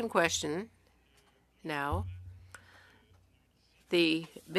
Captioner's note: speaking French